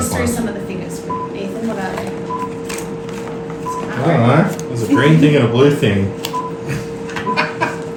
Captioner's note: laughs